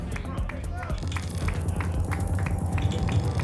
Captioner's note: whoosh; clicks; clapping